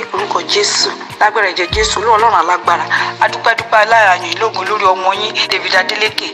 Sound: woman speaking in foreign language

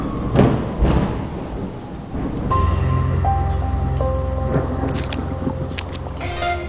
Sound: sirens in the distance; thunder cracks; electronic tones; splashes in puddles

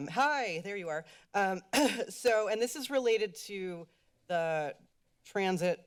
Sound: clears throat

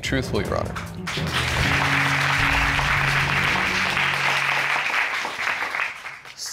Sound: audience applauding

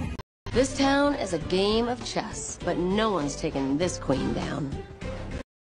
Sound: Tik Tok sound

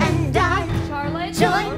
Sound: speaking

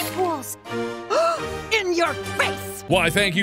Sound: gasp

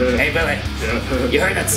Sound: keeps giggling

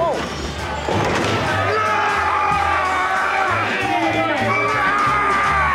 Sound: yelling

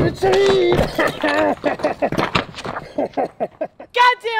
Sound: laughing

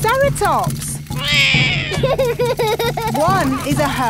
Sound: roars; laughs

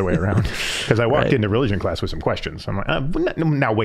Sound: both chuckling

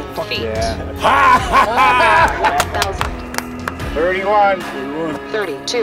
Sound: cheering

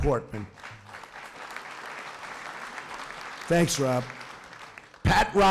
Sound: applause

